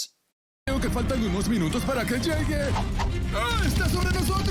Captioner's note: speaking in Spanish